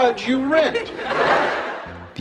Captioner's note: laughter